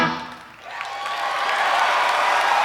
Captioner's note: crowd cheers